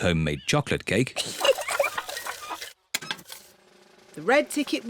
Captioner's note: giggles